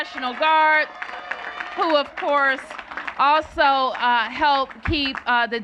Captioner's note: cheers and applause